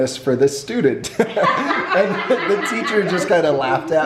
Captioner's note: laughs